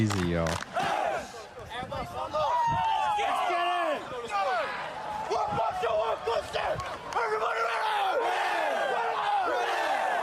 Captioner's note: cheering; screaming